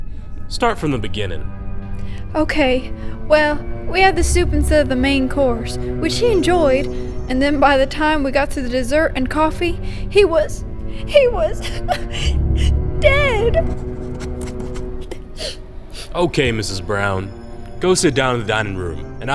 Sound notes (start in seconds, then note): 10.3 choked up; 12.2 crying; 13.7 sniffles